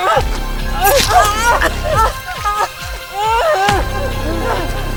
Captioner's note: dramatic music; Caroline moaning; dramatic music